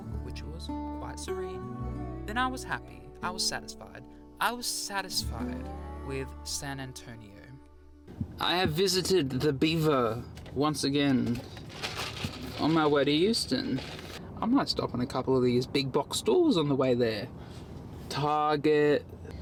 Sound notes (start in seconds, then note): none